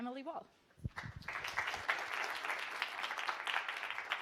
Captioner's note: applause